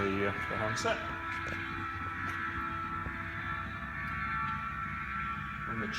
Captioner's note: whirring Sounds